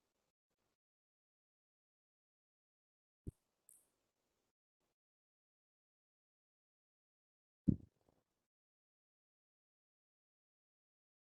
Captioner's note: pause